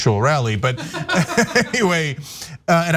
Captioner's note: laugh